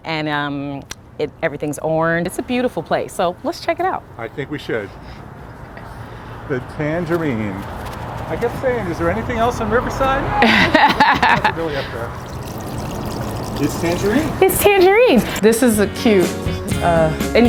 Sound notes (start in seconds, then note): 9.0 laughing; 12.4 water burbling; 13.7 upbeat music